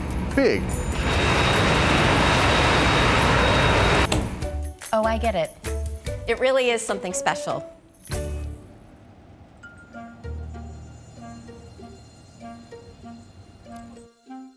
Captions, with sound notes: (machines whirring) - Oh, I get it. It really is something special. (bright playful music)